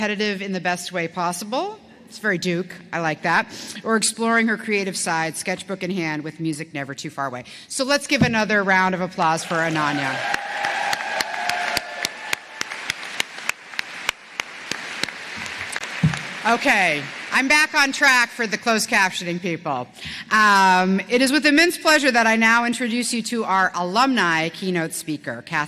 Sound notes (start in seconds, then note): 11.7 applause